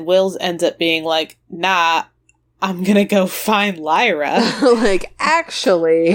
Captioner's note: laughs